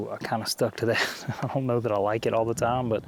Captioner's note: laughs